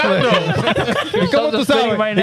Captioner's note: laughing